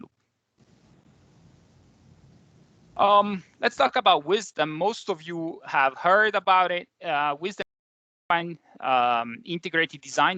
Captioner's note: audio glitch